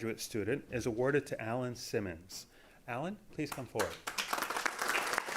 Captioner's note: applause